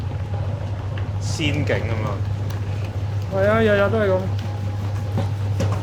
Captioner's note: speaking foreign language